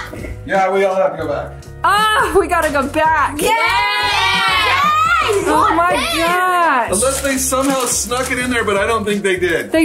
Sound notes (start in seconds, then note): 3.4 all cheering